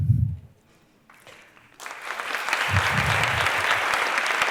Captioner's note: applause